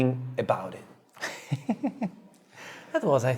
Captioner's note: laughs